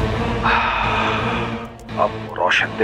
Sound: sighs

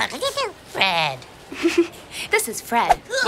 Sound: laugh

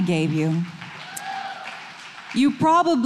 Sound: audience clapping

